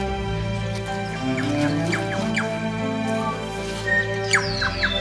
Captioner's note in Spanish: chillidos de pájaros